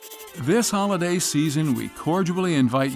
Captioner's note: voice-over